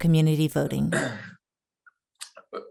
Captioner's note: clears throat